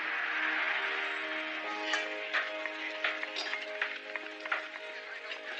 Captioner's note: applause